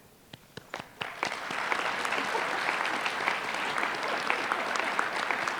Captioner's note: applause